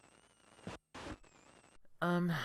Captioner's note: static